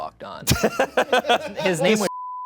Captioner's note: laughs; beep